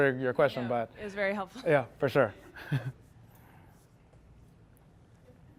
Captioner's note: chuckles